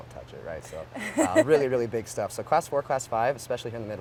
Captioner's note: laughs